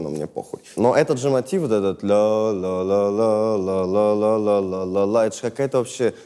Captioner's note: vocalizes